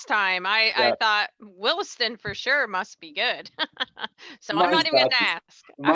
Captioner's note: laughs